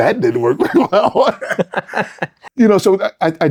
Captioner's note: both laughing